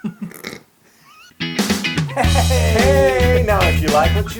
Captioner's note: laugh